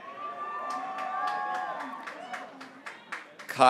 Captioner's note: graduates cheering